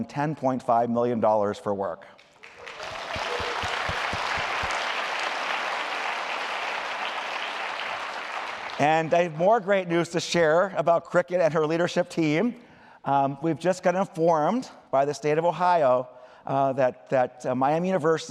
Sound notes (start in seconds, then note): 2.2 applause